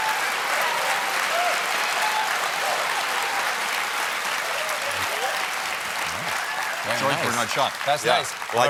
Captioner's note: applause; cheers